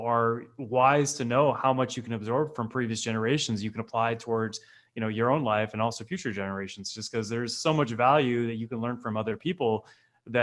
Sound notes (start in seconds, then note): none